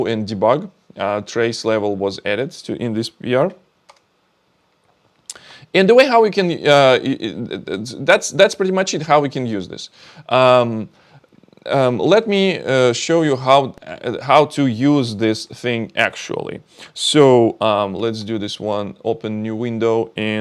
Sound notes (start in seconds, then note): 3.9 keyboard clicking